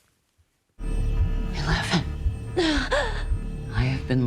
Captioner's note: gasps